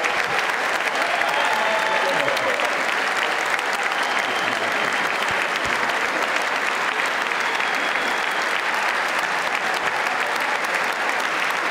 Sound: applause

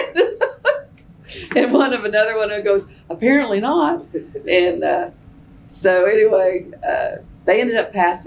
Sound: laughs

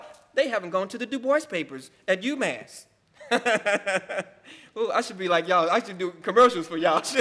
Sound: laughing

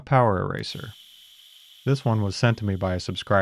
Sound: motor humming

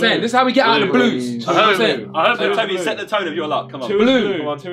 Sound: all chattering

